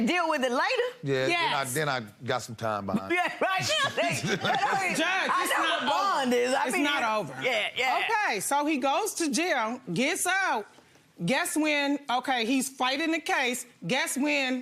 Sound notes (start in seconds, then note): 3.4 laughs